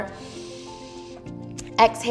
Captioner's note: inhales